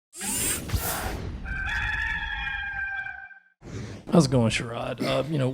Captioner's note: rooster Crows